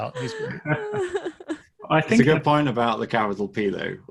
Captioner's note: all laughing